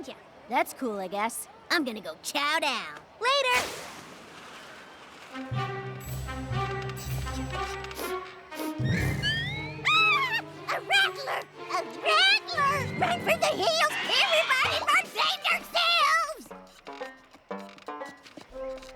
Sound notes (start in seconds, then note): 7.7 sniffs